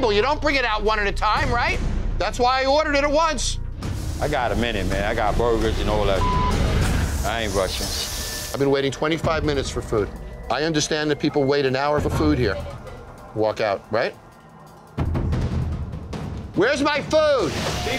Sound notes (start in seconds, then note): 6.1 beep